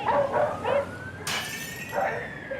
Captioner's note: sound of breaking glass